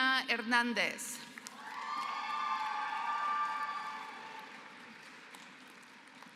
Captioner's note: applause